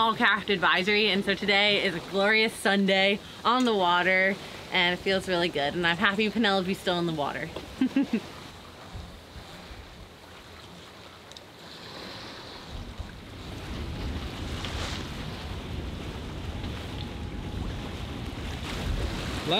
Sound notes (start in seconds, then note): 7.8 laughs; 11.6 wind whooshing; 16.4 waves splashing